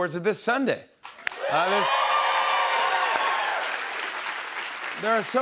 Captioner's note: cheers and applause